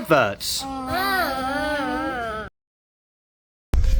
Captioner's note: groaning